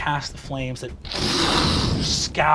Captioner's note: whooshing